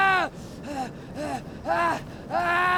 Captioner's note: Ash screams